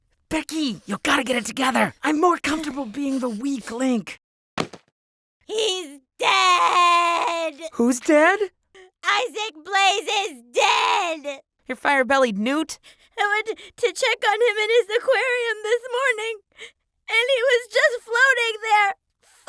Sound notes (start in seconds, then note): 4.6 thunk